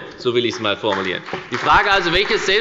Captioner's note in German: Beifall bei der FDP